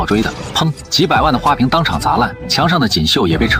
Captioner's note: bang!